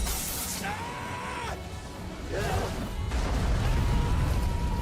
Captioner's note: people screaming